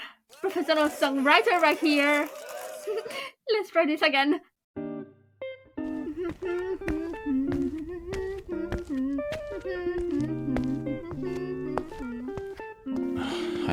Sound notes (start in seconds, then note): 2.6 giggles; 5.9 hums; 13.1 sighs